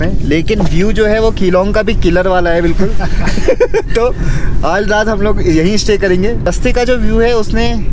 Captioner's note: laughs